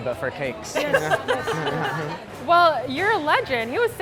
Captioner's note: laughing